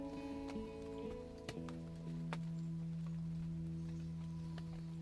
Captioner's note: raindrops falling